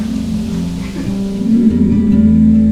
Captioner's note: laughs